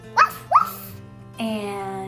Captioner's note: Ella barks